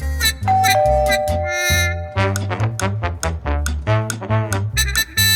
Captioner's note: doorbell ringing